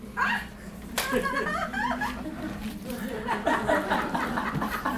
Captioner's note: audience laughter